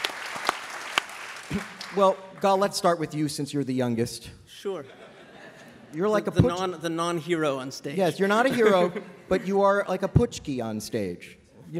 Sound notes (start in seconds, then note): 0.0 applause; 4.8 laughter